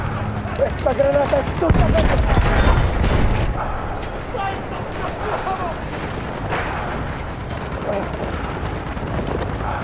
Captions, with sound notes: Throwing Gernade *heavy breathing*